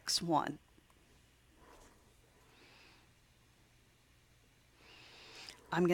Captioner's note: silent